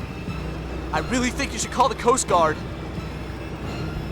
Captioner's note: none